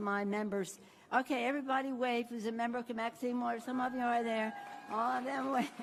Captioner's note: applause